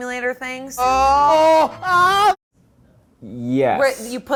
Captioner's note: yelling